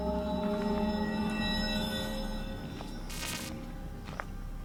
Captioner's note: static sounds